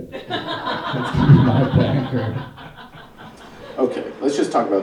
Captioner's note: audience laughing